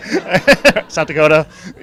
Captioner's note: laughing